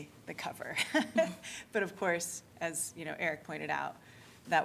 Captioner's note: laughter